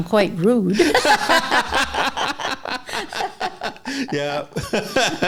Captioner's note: laughter